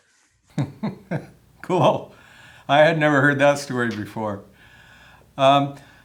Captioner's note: laughs